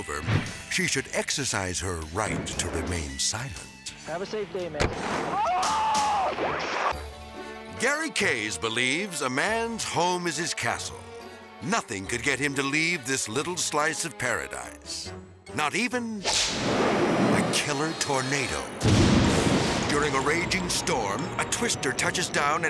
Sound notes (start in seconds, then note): 5.2 transition whooping; 5.3 driver screaming; 16.0 whimsical music; 18.8 storm rumbling